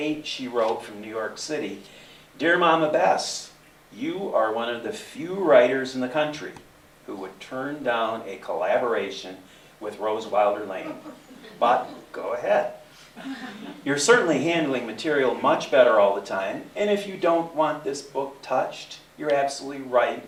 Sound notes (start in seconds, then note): 10.8 laughter